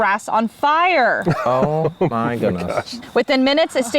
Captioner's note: laughs